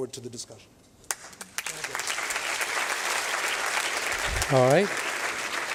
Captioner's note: applause